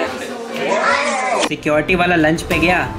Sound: kissing noises

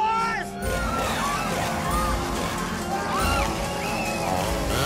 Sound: screaming

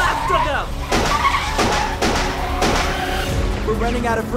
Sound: gunshots

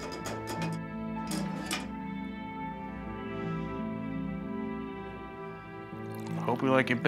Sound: tea kettle clattering; footsteps

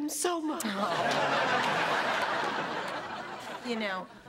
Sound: laughter

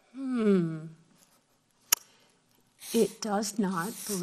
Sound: humming thoughtfully

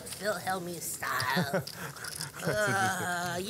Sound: laughing

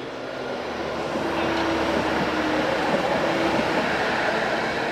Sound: sound of train departing

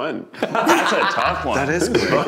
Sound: laughing

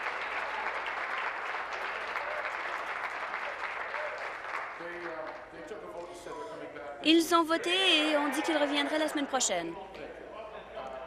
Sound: applause

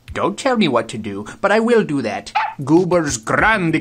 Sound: dog barks

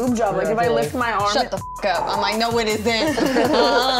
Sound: beep; laughing

